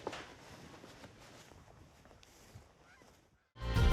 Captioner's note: magpies singing